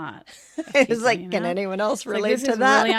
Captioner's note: laughter